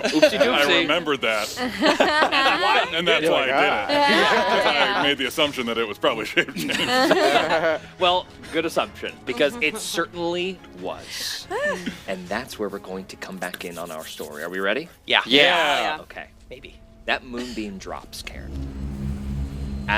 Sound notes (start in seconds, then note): 15.1 overlapping agreement